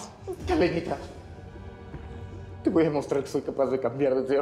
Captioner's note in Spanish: sollozos